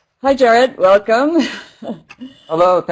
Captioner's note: laugh